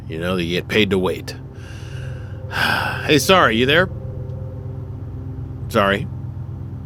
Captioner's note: sigh